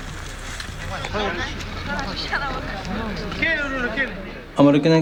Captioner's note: woman and man speaking foreign language